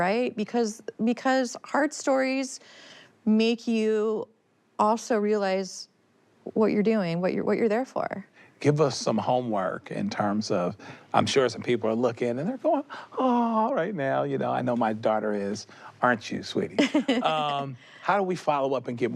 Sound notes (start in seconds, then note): 13.6 endearing voice; 16.8 laughs